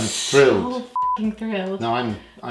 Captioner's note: beep